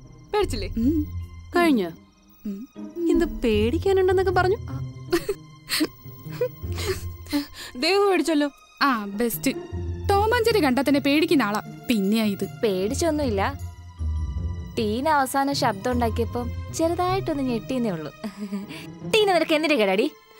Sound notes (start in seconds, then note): 5.1 laughs